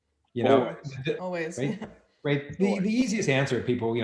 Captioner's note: chuckles